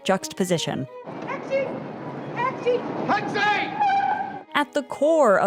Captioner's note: manly yelling